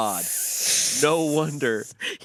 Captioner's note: hisses